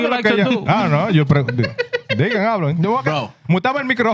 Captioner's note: speaking Foreign Language; laughing; speaking Foreign Language